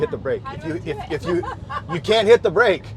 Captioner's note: laughs